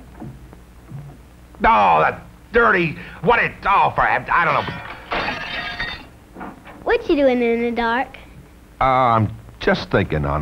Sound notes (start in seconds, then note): 4.4 sound of lamp breaking